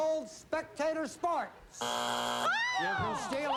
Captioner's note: buzzer